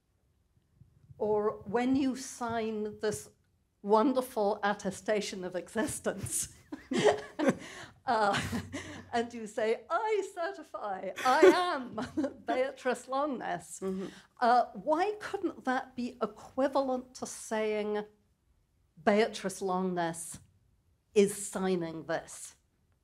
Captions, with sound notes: Or when you sign this wonderful attestation of existence (laughs) and you say, "I certify I am Beatrice Longuenesse," why couldn't that be equivalent to saying, Beatrice Longuenesse is signing this?